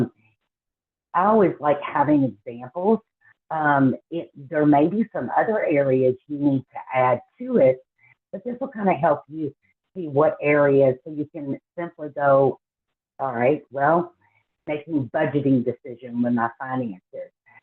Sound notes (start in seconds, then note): none